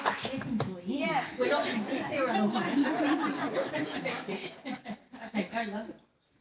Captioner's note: people won’t stop clapping